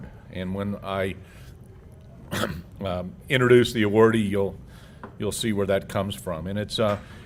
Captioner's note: cough